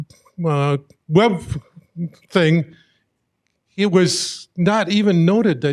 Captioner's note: none